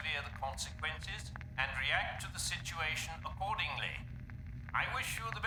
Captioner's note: statics